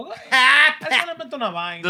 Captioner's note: speaking Spanish